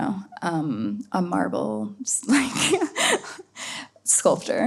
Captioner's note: laughs